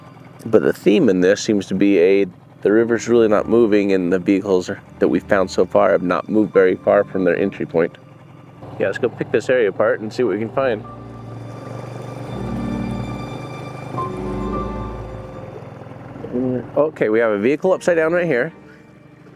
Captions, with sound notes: But the theme in this seems to be a, the river's really not moving and the vehicles that we've found so far have not moved very far from their entry point. Yeah, let's go pick this area apart and see what we can find. (boat motor hums) Okay, we have a vehicle upside down right here.